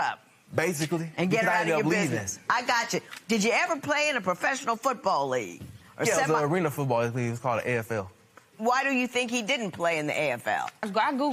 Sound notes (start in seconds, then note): none